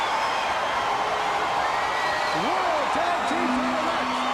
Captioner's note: crowd cheering